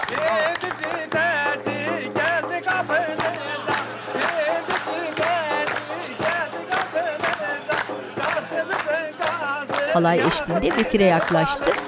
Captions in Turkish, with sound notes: -Peynirci Taci geldi kapınıza. (Alkış sesleri) -Peynirci Taci geldi kapınıza. (Alkış sesleri) Kars'ımızın kazı, yağı, peyniri, balı.